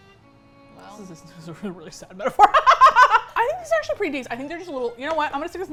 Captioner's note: sad violin music; laughs